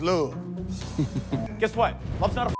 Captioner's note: judge chuckles